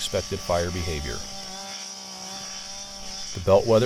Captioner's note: machine whirring